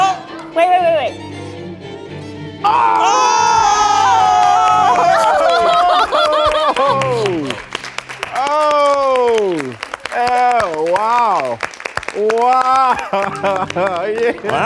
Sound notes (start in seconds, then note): 2.8 all cheering and clapping; 4.0 laughing